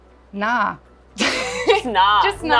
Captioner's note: laughs